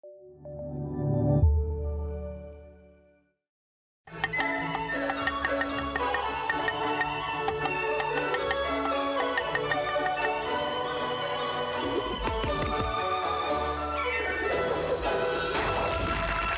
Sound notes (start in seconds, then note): 4.4 joyful music; 6.6 chopping sounds; 12.0 slice sound